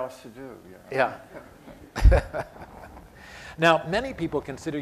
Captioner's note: laughter